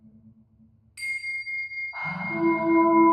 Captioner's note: bell rings; ethereal music